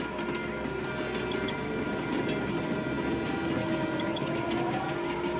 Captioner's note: train rumbles and horns